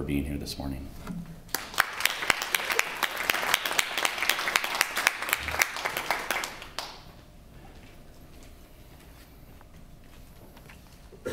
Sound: applause

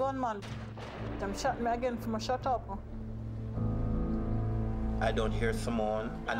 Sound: gunshots

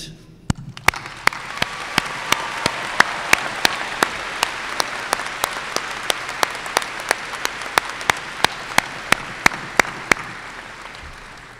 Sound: applause and cheers

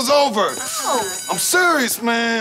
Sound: bell ringing

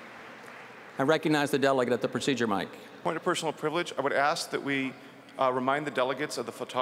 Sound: applause

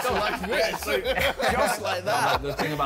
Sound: all laughing

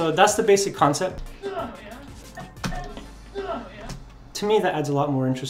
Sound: grunting and punching

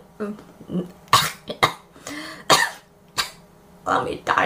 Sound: coughs

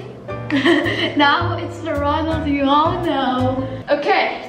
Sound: laughs

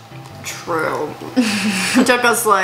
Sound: snickers

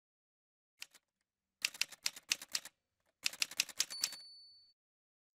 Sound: typewriter sounds

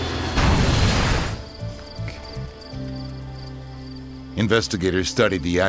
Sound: crash

